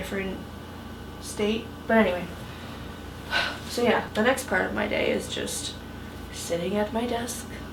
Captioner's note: sigh